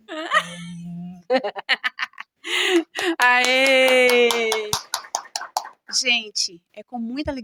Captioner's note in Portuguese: Risada